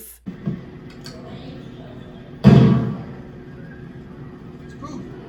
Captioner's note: fire crackling, gunshot